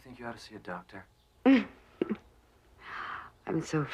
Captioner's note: terkekeh